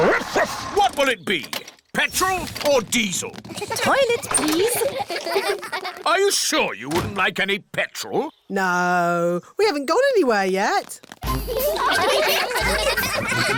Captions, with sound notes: Woof-woof! What will it be? Petrol or diesel? -Toilet, please. -(KIDS GIGGLING) Are you sure you wouldn't like any petrol? No, we haven't gone anywhere yet. (LAUGHTER)